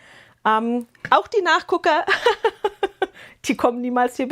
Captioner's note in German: gelächter